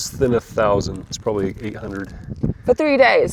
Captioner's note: plastic rustles